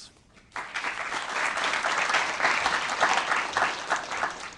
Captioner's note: applause